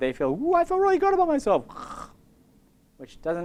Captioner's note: snore